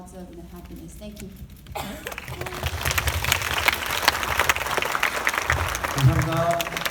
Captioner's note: audience clapping; speaking in foreign language